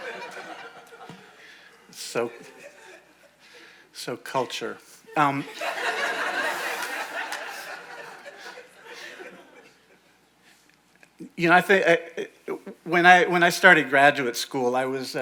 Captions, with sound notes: So culture. (audience laughing) You know, when I started graduate school,